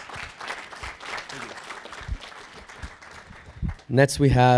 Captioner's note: audience applauding